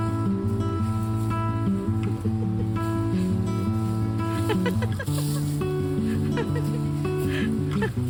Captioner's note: laughs